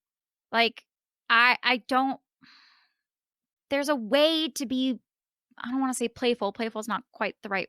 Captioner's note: pensive sigh